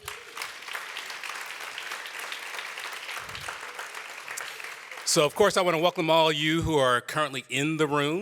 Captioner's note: applause